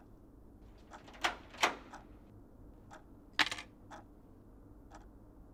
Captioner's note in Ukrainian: звук відкривання вхідних дверей